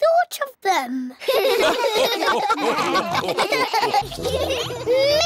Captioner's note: all laugh